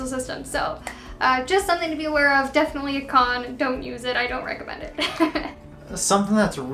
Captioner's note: laughs